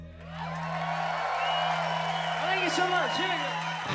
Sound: crowd cheering

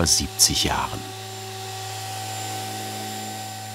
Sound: whirring

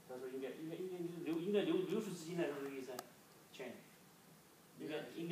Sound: speaking foreign language

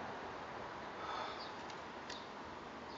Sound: heavy breathing

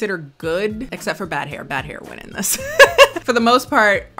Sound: laughs

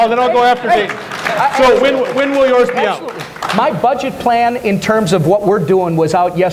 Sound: applause

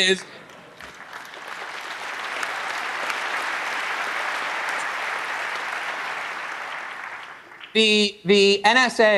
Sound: applause

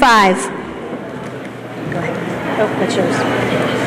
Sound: chatter

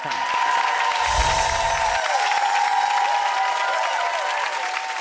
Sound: audience applauds and cheers

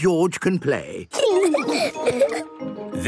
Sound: laughing

